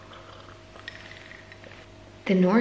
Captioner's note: sipping tea